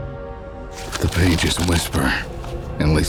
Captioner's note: páginas virando